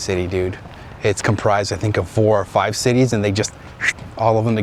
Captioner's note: whooshed